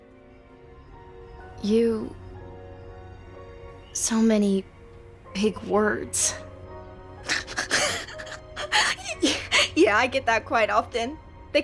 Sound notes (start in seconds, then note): 7.2 Laila laughs